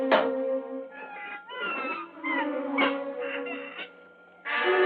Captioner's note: bird squawking